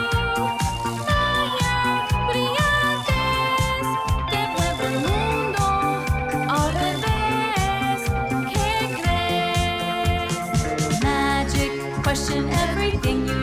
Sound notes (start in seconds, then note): 2.2 speaking in Spanish